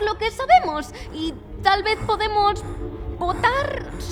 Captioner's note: panting